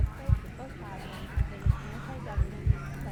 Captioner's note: faint whispers